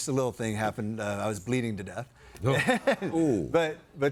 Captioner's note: laughs